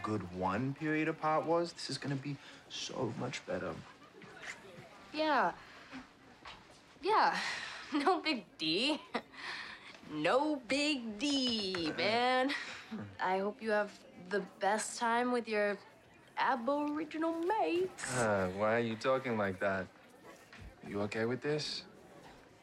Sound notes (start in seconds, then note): 15.2 Australian accent